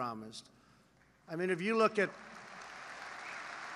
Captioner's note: applause